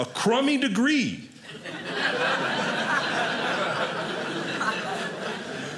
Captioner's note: audience laughing